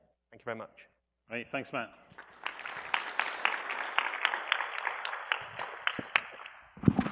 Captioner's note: applause